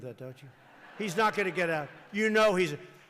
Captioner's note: laughter